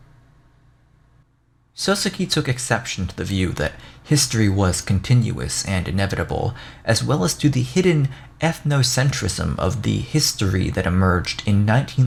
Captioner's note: reading text